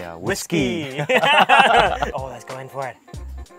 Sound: laughing

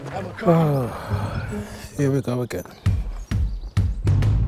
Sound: sighing

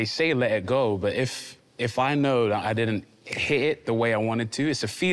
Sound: snapping gently

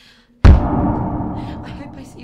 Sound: echoing crash

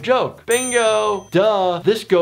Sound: bell chiming

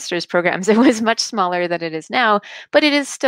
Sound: chuckling

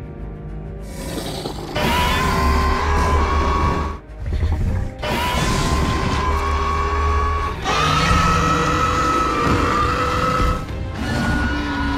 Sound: Scorpius growling

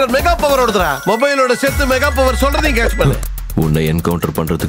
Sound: phone rings

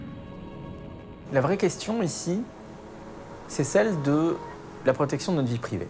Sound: speaking in a foreign language

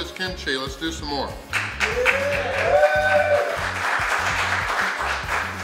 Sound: cheering & Clapping

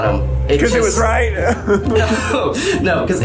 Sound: laughs

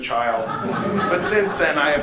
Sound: laughter

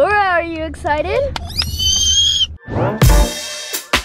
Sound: squeals; laid back music

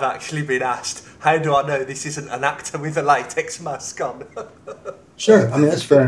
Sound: laughs

